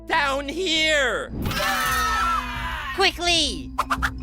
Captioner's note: screaming